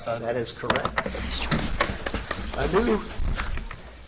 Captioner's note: audience applauds